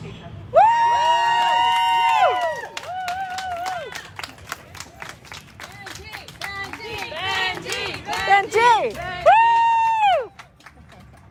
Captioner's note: cheering